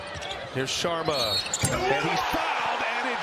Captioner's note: cheers and applause